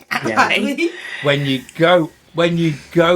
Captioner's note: laughter